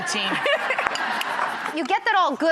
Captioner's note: laughter